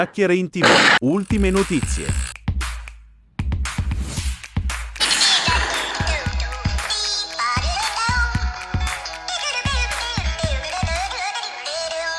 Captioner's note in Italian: Applauso